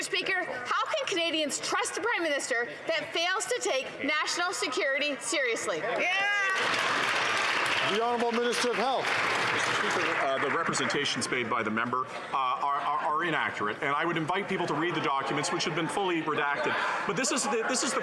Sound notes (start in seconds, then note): 11.0 some Applause